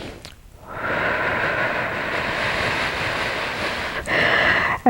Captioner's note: breathing out